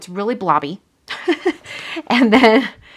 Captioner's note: laughs